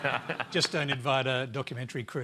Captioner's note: laughter